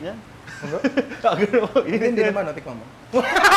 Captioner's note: laughs